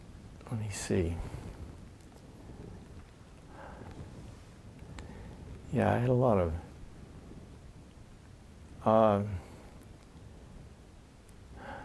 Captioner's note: pause